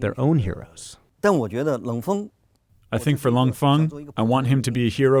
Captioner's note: through translator